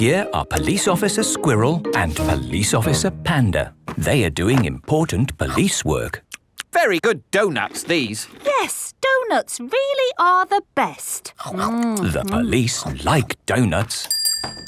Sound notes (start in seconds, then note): 7.0 munching